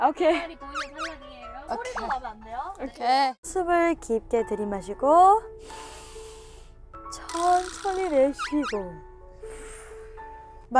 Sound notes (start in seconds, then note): 5.6 rough breather